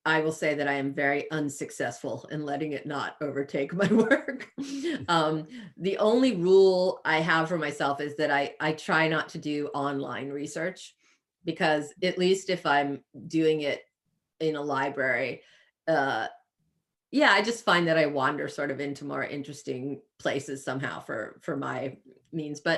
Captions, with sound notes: will say that I am very unsuccessful in letting it not overtake my work. [chuckles] The only rule I have for myself is that I try not to do online research, because at least if I'm doing it in a library, yeah, I just find that I wander into more interesting places somehow for my means.